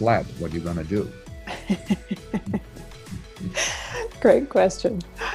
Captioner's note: laughs